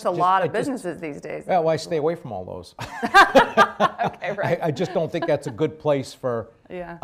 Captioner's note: laughter